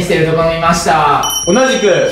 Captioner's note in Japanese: チリーン